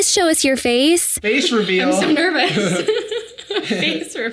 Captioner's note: laughs